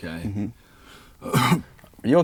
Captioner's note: coughs